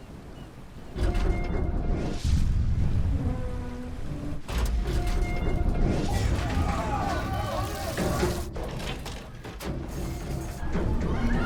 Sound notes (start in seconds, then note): 1.1 mechanical whirring; 2.3 explosion booming; 4.6 Britannic creaking; 6.1 men yelling; 8.8 Britannic thudding; 11.1 women yelling